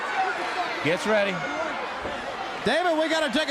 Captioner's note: crowd chatter